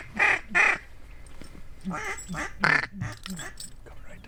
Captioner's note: ducks honking